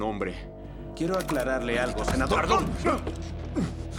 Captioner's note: grunting